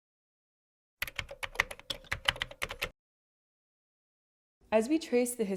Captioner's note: typing